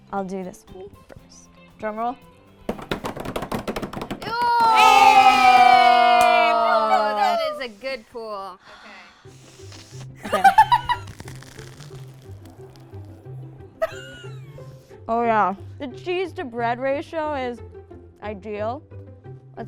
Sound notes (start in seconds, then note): 2.7 tapping; 9.3 sniffs; 10.2 laughs; 10.9 crunching